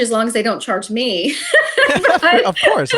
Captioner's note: laughing